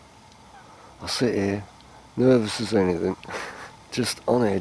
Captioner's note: laugh